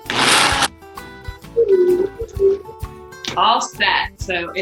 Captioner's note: blender buzzes